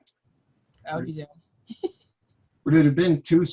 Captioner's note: chuckles